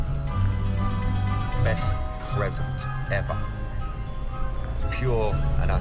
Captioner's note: echoing